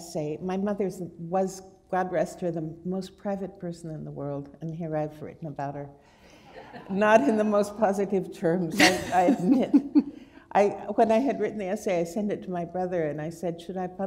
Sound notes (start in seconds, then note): 6.4 laughter; 9.7 chuckle